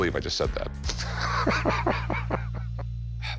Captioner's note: laughs